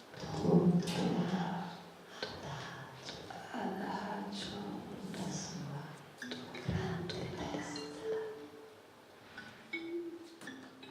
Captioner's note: whispers getting softer